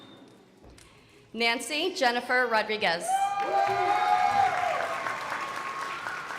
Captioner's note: crowd applauding